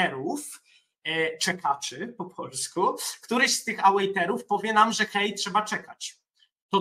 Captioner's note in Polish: czekaczy po polsku